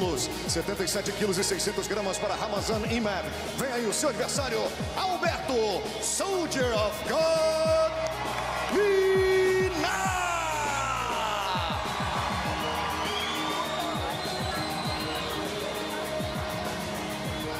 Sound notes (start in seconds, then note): 6.1 speaking foreign language